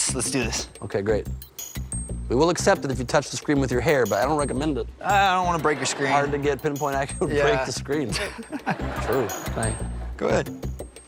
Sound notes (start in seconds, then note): 8.1 laughs